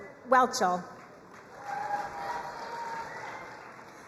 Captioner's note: crowd cheering and applauding